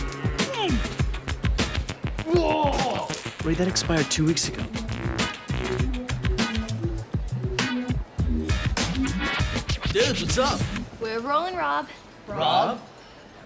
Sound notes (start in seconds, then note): 0.2 groans, gags; 2.2 Ray vomits